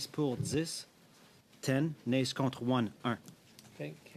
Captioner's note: speaking French